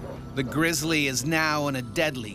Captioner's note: voiceover